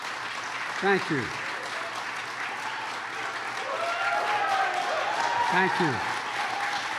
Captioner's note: applause